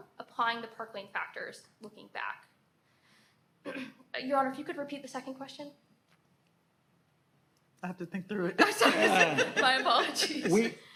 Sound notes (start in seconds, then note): 8.0 laughs